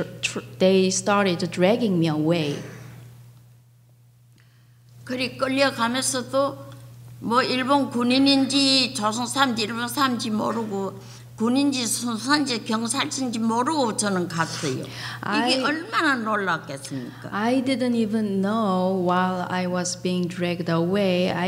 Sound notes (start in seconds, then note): 4.9 speaking foreign language